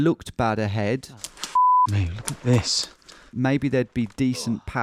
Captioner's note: beep